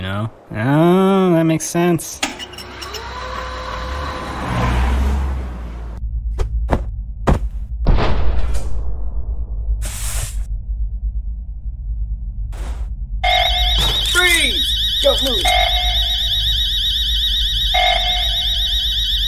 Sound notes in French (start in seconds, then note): 13.2 Bruits d'alarme